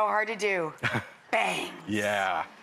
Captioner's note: Kyan laughs